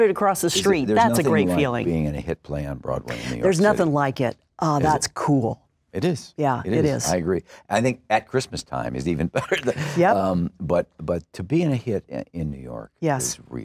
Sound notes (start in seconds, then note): 9.3 laughs